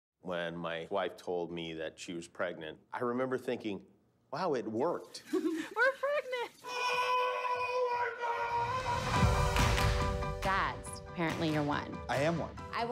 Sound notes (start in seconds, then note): 5.3 woman chuckles; 8.5 shouting